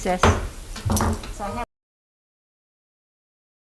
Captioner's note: gavel bangs